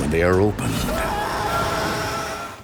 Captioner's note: man screaming